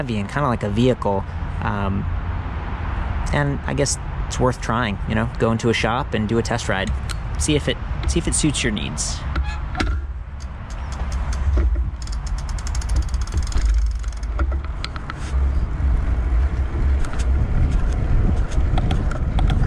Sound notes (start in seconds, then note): 13.7 bicycle pedaling